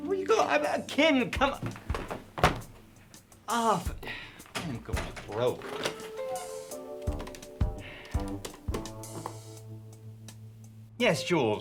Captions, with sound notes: - Where you going? I'm kidding, come on. Oh, I'm going broke. (groovy upbeat music) (phone clanks)